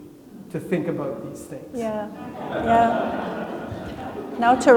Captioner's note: attendees laughing